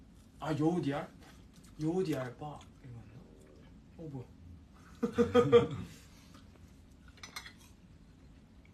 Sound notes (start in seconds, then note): 3.0 stomach grumbling